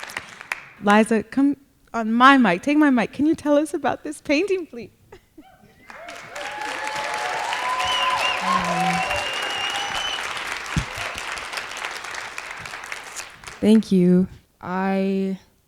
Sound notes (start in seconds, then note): 5.8 applause